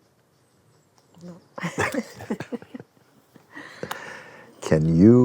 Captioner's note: both laugh